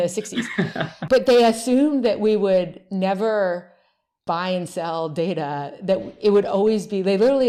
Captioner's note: laughs